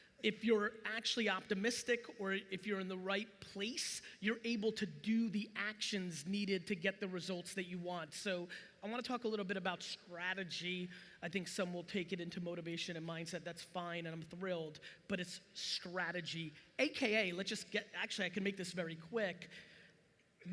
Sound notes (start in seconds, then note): none